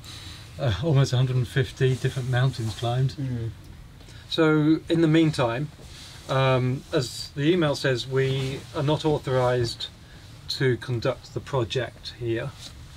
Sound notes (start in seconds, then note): none